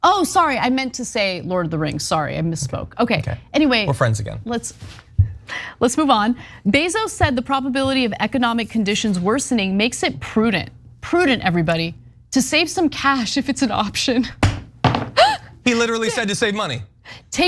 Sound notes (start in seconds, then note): 15.2 laugh